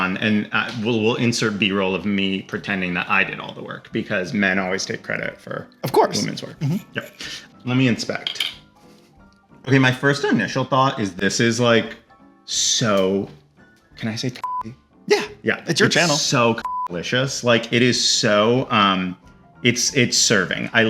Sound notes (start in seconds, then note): 14.4 beep; 16.6 beep